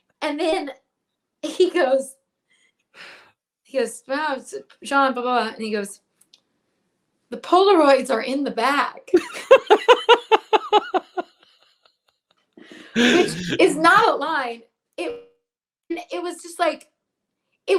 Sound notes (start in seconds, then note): 9.2 laughs